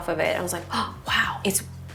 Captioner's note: gasps